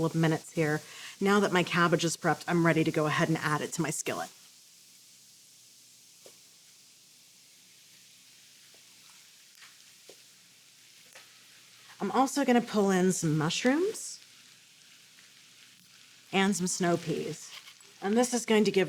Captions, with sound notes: to my skillet. (gentle sizzling) I'm also going to pull in some mushrooms... And some snow peas. And this is going to give us a mixture of textures and flavors that will really go well